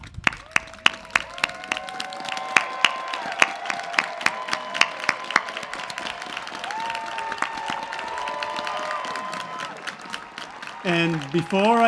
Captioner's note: cheers and applause